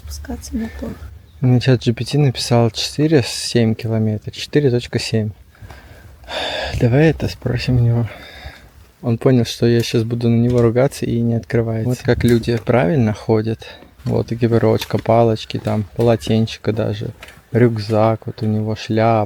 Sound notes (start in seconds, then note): 6.2 sighs